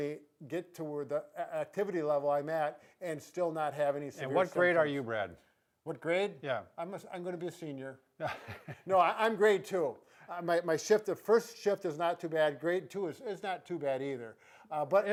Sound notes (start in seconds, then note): 8.2 laughs